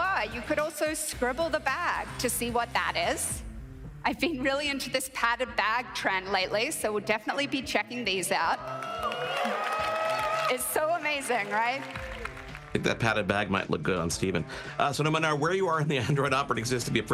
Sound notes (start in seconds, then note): 8.6 crowd cheering; 8.6 crowd applauding